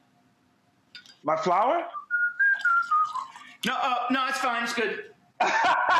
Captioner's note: whistling; laughs